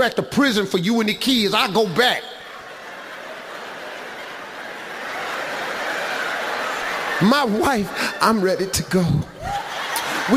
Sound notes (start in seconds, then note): 1.8 audience laughs